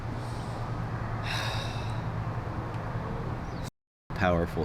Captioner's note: sighing